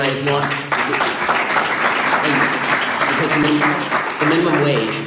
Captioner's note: audience applause